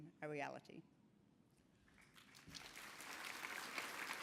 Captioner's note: applause